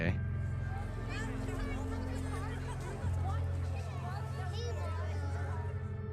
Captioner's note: people chattering